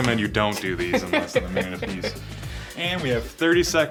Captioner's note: laughing